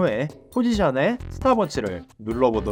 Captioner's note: Stopwatch